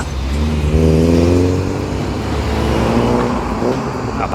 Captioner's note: car engine